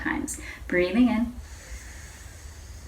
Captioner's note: inhales